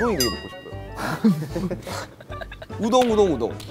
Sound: laughs Out Loud

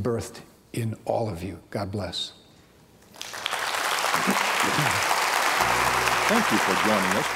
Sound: clapping

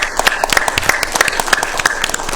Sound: applause

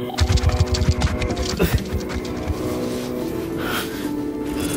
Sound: scorpion scurries

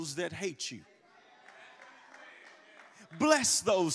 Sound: congregation applauds

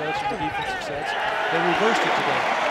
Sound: crowd cheering

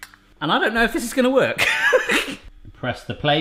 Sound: laughs

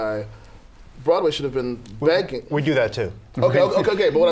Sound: laughter

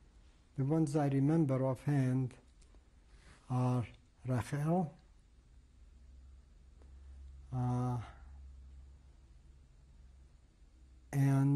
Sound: pauses for 7 seconds

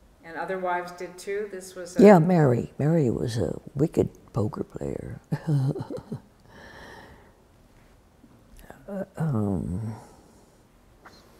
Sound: laughs

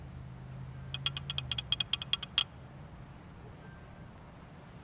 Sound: rattling

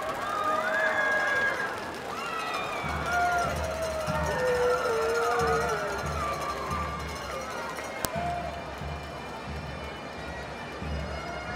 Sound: cheering

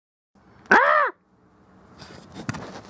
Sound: weird shriek

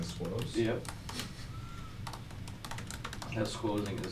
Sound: keyboard clattering

